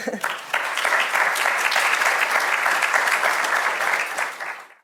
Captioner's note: audience applauding